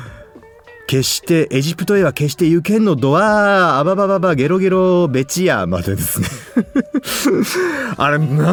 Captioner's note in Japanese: 笑い